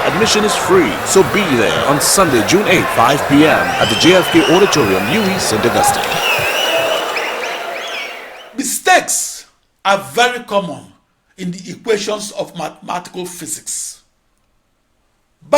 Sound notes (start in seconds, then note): 4.7 wild applause and cheering for 22 seconds